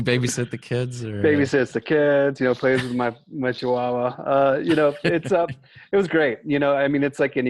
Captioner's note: laughter